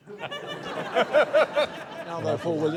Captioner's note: laughter